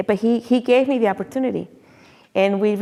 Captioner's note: none